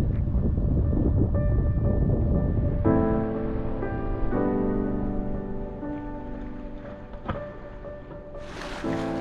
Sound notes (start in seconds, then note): 2.9 upbeat music; 2.9 water splashing